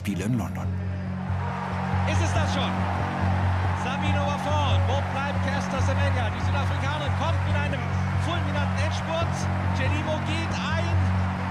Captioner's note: in german